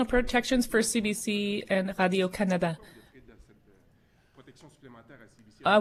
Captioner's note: speaking French